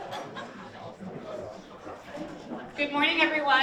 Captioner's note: people chattering and laughing